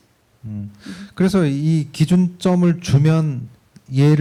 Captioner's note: speaking korean